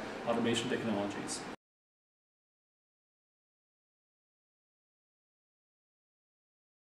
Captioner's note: silence